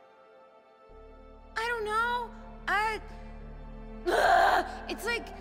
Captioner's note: screams